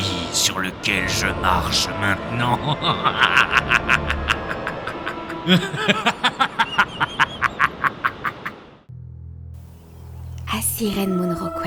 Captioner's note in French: rire malveillant